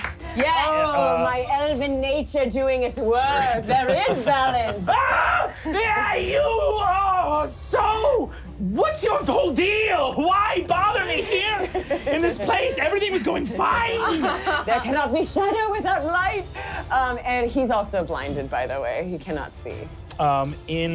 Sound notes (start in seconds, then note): 4.8 screams